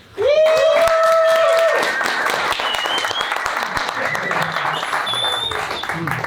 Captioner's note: everyone cheering and applauding